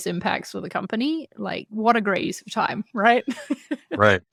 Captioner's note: laughs